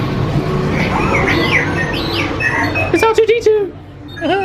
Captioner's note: R2-D2 beeping